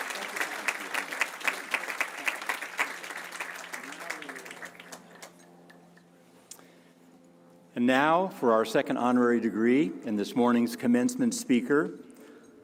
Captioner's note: cheers and applause